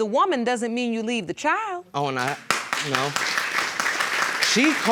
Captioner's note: applause